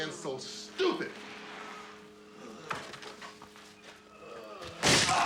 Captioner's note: groans